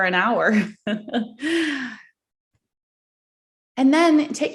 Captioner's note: giggles